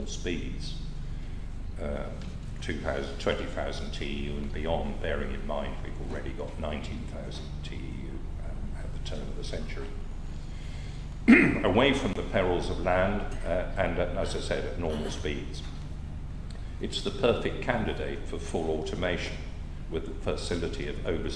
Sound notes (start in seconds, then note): 11.2 cough